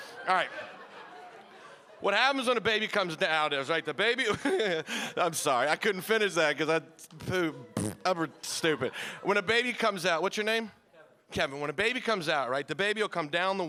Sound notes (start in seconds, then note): 7.7 imitating flatulence